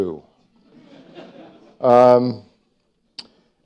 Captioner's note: laughter